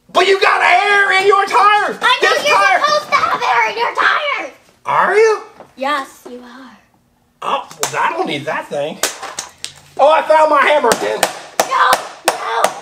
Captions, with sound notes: - But you got air in your tire! - I know, you're supposed to have air in your tires! - Are you? - Yes, you are. - Oh, well I don't need that thing. - Oh, I found my hammer again. (hammer banging) - No, no.